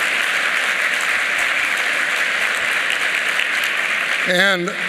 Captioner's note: applause